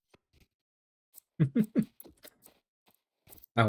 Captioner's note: giggling